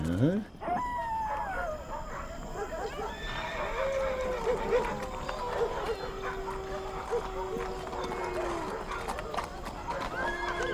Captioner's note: night noises